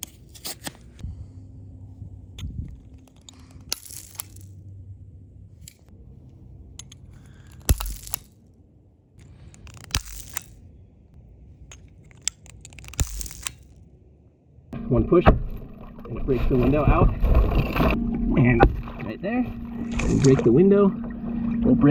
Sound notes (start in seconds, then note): 3.8 glass shattering; 10.0 glass shattering